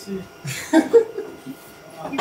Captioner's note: laughs